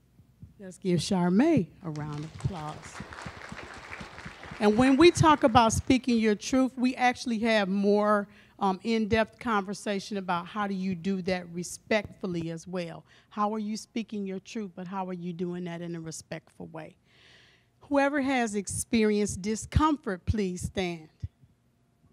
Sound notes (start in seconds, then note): 1.9 applause